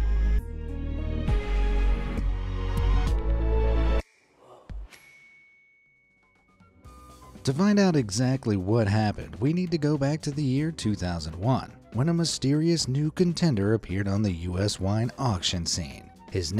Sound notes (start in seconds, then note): 0.0 light suspenseful music; 4.0 mascot gasps; 4.9 bell dings